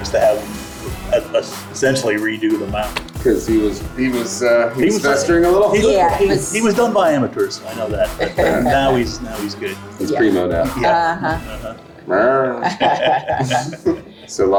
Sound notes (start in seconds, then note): 11.5 group agreeing; 13.1 group laughs